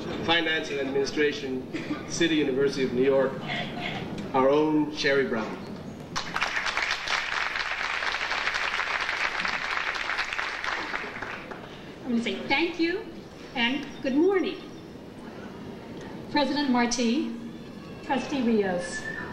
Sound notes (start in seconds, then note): 6.1 audience applauding